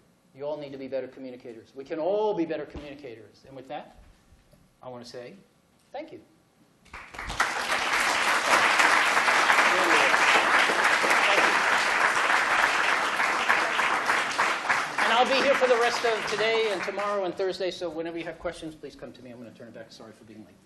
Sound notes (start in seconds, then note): 7.0 applause